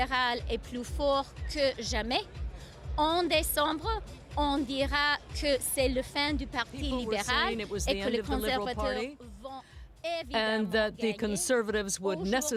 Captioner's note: speaking French